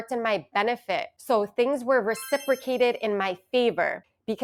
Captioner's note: chimes ringing